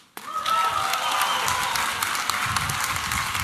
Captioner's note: applause and cheering